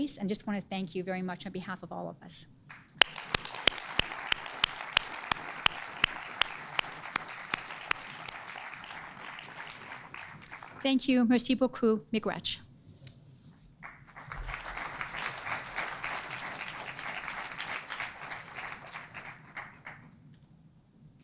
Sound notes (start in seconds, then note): 2.7 audience applauding; 11.6 speaking foreign language; 13.8 audience applauding